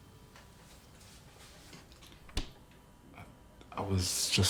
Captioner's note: fridge clicking shut